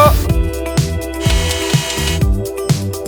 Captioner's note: whirring noise; upbeat music